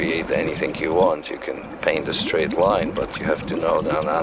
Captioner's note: liquid burbling